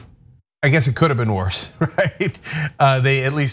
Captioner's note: laugh